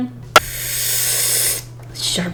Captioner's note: deep inhale